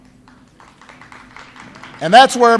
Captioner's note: applause